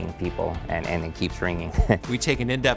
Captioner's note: laughs